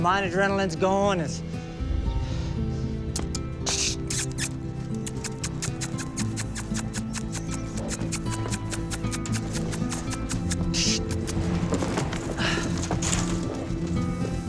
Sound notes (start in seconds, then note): 2.3 smacking lips; 11.0 sighs in exasperation